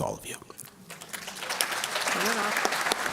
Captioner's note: applause